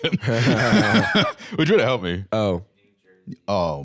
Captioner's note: laughs